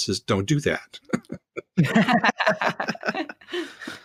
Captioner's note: laughing